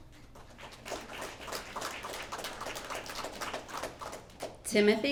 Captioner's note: applause